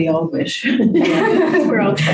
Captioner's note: group laughs